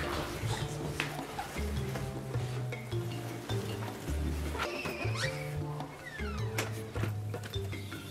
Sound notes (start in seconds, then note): 4.7 shushes